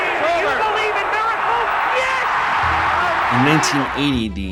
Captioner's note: Generalized yelling about the Miracle on Ice